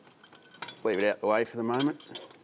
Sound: metallic clattering

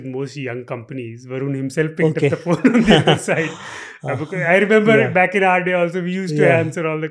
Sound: laughs

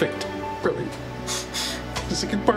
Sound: sniffles

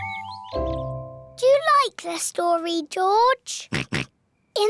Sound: oinks

